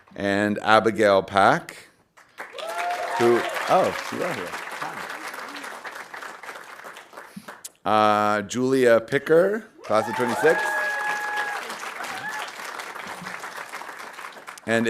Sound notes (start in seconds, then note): 2.2 audience applauding; 9.8 audience applauding